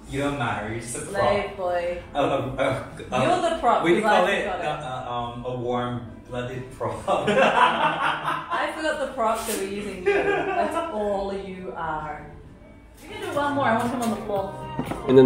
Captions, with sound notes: You don't matter. You're the prop. A warm-blooded prop. (laughter) That's all you are.